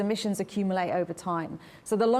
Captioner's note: none